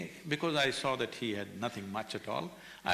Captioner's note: none